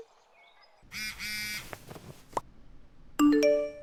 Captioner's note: phone Vibrates